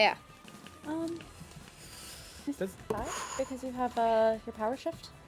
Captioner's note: faintly speaking